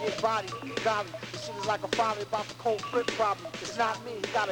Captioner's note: squawking